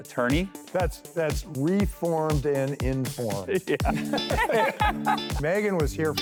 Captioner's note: laughter